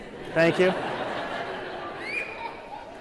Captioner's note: laughter